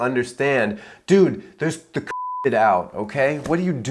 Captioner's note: beep